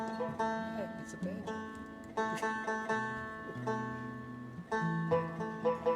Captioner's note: banjo tuning; chuckles; banjo tuning continues